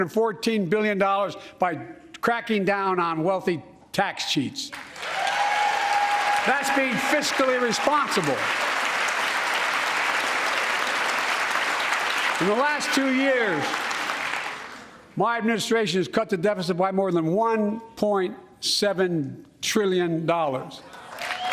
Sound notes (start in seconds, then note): 10.8 cheers and applause